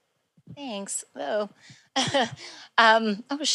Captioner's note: chuckles